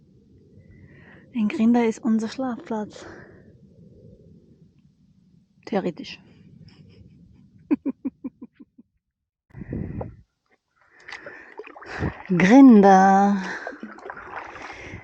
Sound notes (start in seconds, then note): 7.6 laughing; 13.0 paddling